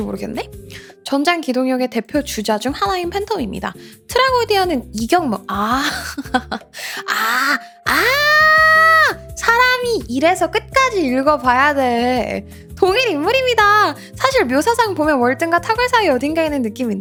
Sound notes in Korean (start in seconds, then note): 6.0 웃음; 7.8 비명